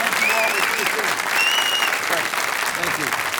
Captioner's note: audience applauding